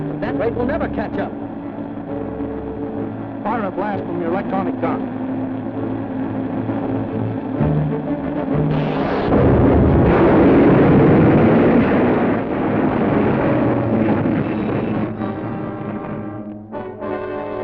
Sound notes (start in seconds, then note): 9.1 gunshot